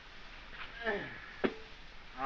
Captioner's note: grunts